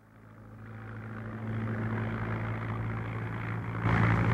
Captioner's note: plane engine roaring